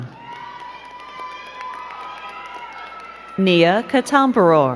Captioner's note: crowd cheering and clapping